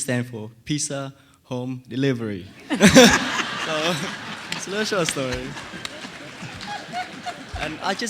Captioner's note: laughter